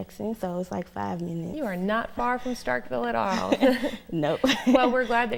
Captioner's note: laughs